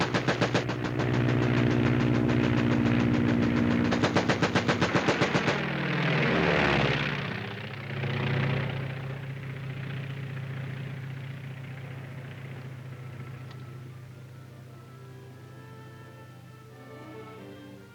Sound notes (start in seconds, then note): 5.8 aircraft engine whirring; 15.1 gentle music